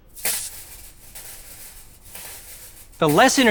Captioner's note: coils rattle